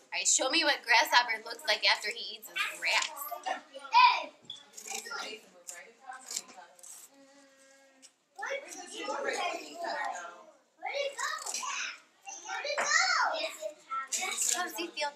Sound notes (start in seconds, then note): 3.8 children chatter on the other side of the room